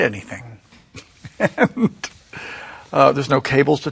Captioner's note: laughs